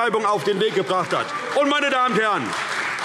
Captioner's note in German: Beifall CDU - Lebhafte Zurufe SPD und DIE LINKE